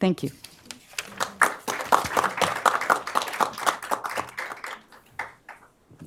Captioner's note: applause